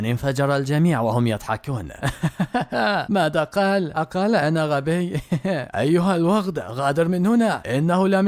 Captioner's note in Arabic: ضحك